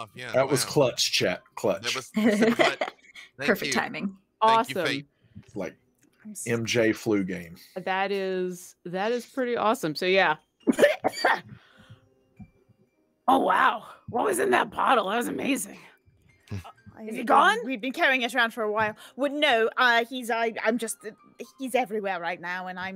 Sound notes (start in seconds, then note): 2.2 laughs; 10.6 coughs